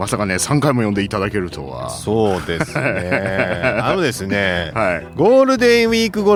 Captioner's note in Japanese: 笑い